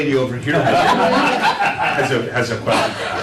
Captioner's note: laughter